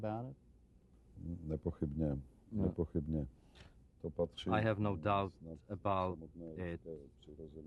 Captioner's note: through translator